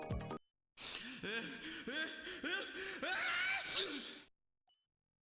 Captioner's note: sneeze